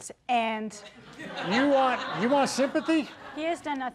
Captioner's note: people laughing